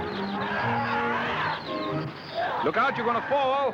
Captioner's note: growling